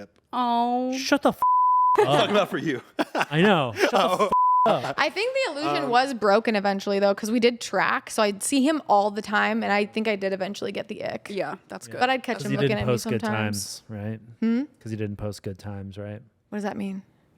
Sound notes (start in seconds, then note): 1.4 beep; 4.3 beep